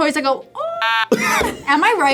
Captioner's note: laughs